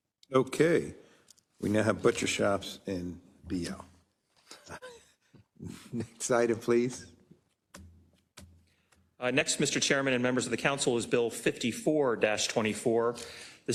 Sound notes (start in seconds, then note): 4.4 laugh